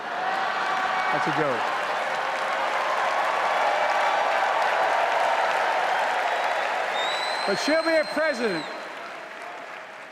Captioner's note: applause